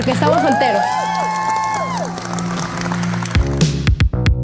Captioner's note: applause